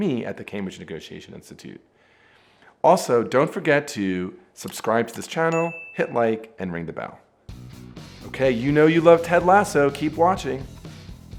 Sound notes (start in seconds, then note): 4.6 mouse clicking; 5.5 bell dinging; 7.5 rock music